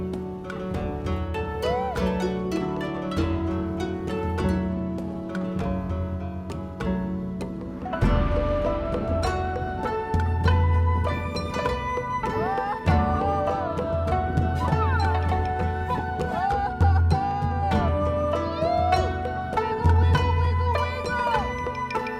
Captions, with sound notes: (lively music continues) (lively music continues) (skier yelling) - Yeah! Wiggle, wiggle, wiggle, wiggle!